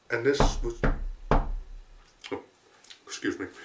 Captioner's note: knock, knock, knock